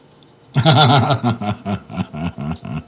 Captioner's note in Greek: γέλια